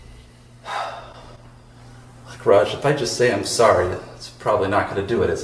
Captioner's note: sighs